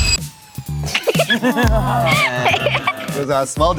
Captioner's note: intense music; group laughing; laughs